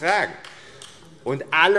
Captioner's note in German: Beifall AfD